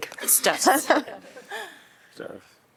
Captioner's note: laughter